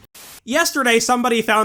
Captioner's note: static